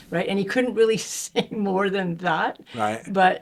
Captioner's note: chuckling